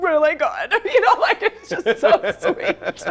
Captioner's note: laughing